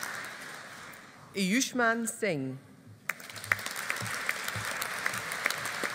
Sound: audience applauding

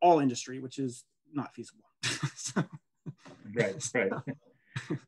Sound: laughing

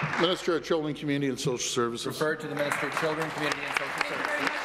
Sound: applause

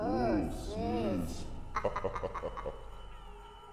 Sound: evil laughter

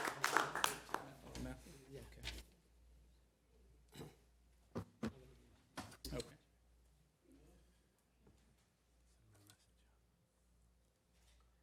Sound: applause

